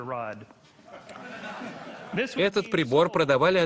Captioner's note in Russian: Смех в зале